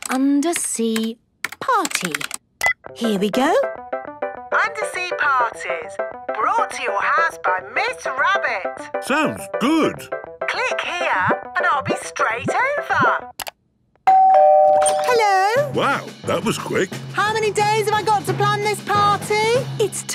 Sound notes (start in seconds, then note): 2.6 beep; 14.0 doorbell ringing